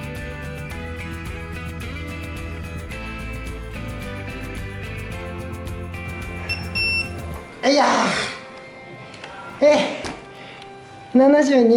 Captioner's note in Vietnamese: cười